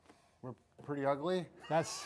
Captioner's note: laughs